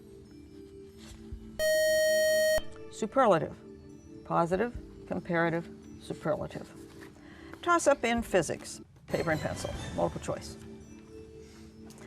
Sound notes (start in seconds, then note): 1.6 buzzer